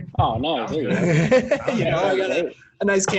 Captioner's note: laughs